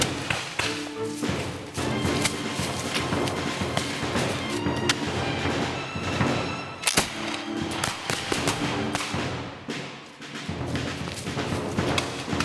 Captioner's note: gunfire